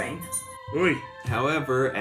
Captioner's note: sound of distress